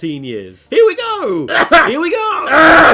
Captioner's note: clears throat